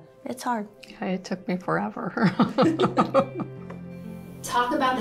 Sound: laughs

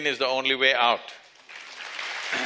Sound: applause

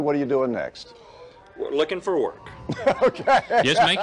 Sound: laughs

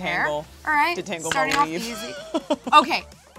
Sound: laughs

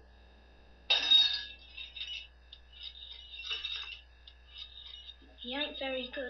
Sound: crashing noises

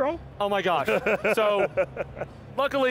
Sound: chuckling

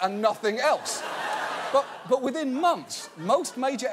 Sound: audience laughing

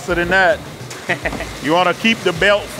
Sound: laughs

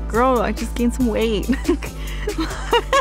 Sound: laughs

